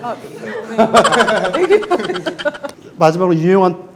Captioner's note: hahahahahahaha